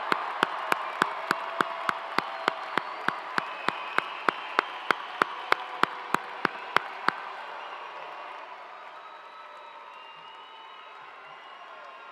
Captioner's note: cheers and applause